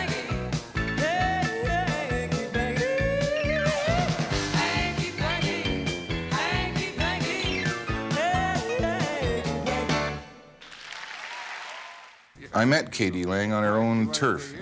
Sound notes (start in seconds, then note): 5.0 vocalizes; 10.6 applause and cheering